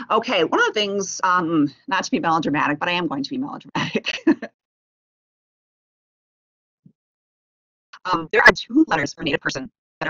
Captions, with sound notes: Okay, one of the things, not to be melodramatic but I am going to be melodramatic (laughs). There are two letters for a Native person